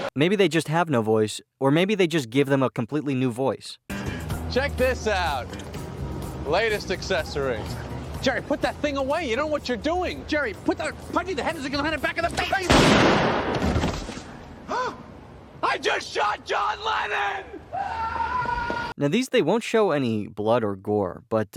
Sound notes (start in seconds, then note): 12.6 bang; 14.7 Seinfeld gasps